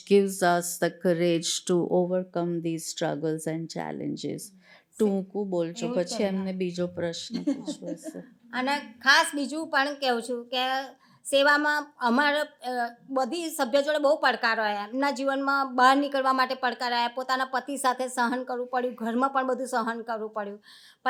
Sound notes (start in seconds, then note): 4.8 speaking gujarati; 7.2 chuckles; 8.6 speaking gujarati